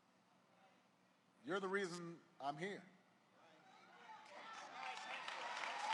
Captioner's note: applause